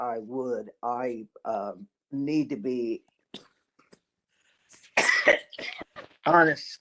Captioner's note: cough